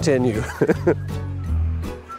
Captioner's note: laughter; upbeat music